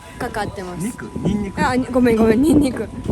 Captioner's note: laughs